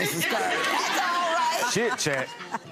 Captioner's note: audience laughing